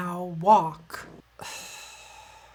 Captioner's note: sigh